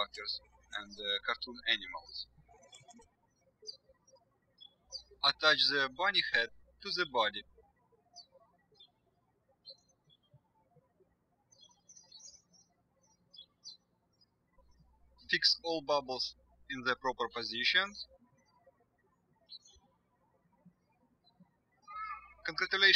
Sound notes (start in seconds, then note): 7.7 birds chirping; 19.4 birds chirping